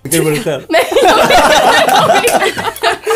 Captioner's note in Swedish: Skratt